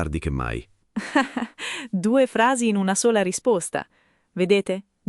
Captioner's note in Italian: Haha